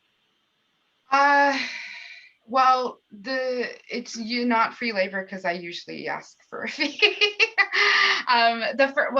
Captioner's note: laughter